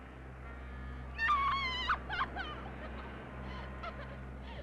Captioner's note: screaming; crying